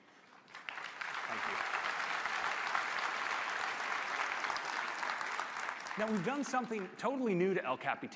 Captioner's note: applause